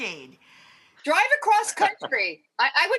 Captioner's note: laugh